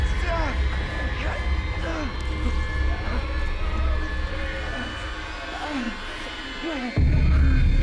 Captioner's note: soft intense music; Clint groaning softly